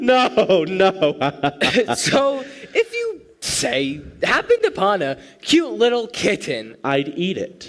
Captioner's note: laughing; still laughing